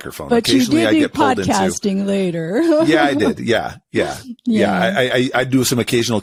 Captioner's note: laughs